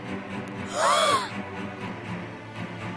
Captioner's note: kids gasps